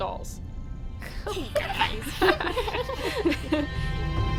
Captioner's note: laughter